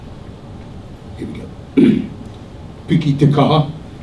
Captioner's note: clears throat